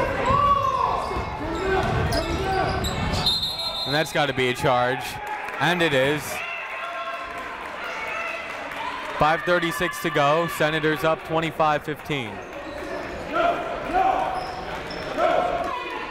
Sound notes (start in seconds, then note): 0.1 shouting; 3.2 whistle blowing; 7.6 shouting